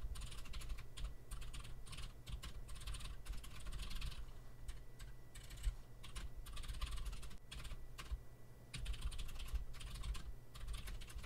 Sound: typing sounds

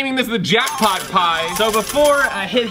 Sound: slot machine bells

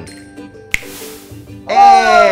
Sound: finger snaps

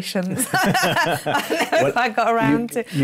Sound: laughter

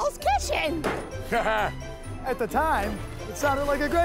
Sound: laughs

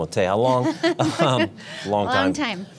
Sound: laughing

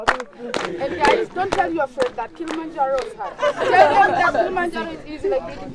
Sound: laughter

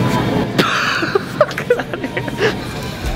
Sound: laughs

